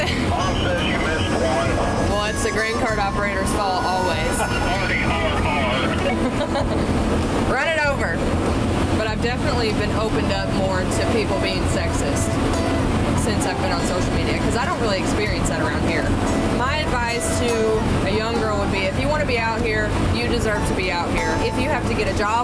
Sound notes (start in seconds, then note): 4.2 laughs; 6.0 laughs jokingly